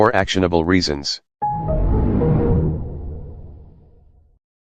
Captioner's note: Anti Evil Windows XP Shutdown Sound